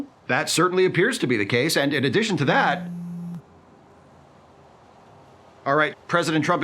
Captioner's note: phone buzzes